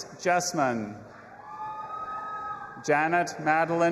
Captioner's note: audience applauding and cheering